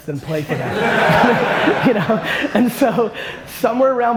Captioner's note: audience laughter